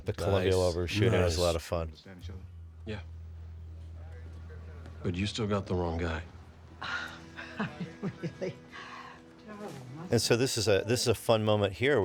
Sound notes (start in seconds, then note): 6.8 sighs